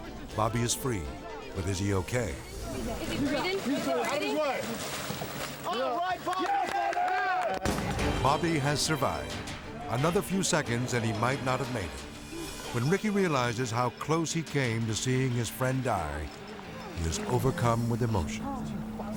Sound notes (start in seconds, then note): 5.6 all cheering